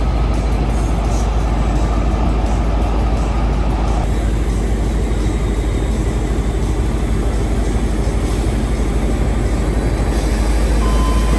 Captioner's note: train noises